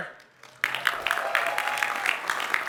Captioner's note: applause